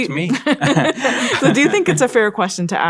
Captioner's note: both laugh